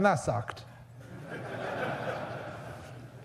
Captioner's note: audience laughs